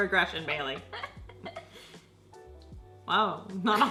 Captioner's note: laughs